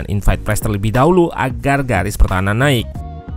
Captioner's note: Italian